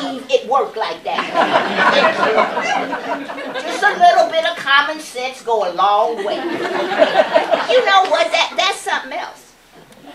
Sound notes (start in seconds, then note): 1.1 laughter; 6.1 laughter